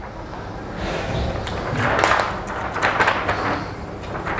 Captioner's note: PET film noise